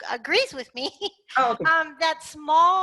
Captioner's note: laugh